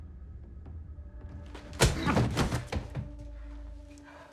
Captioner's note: thud